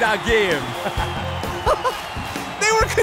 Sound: laughing

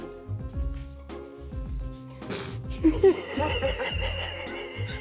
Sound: laughter

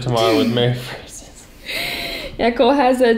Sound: laughs

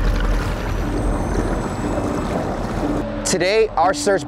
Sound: water splahing; ominous theme music

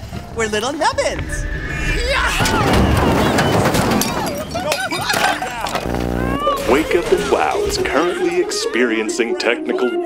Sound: soundbite of crashing, breaking

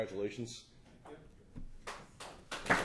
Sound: applause

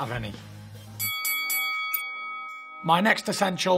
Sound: bell dings

